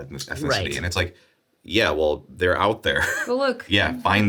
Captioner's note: chuckles